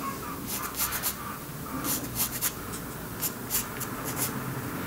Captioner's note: quiet chicken cackling